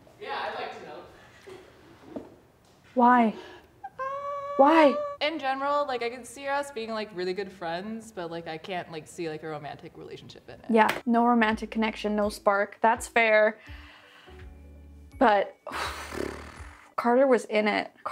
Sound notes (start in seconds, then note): 15.7 sighs